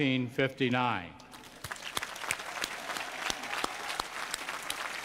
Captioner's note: applause